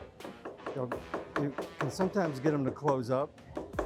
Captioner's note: hammer tapping